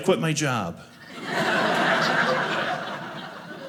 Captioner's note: audience laughing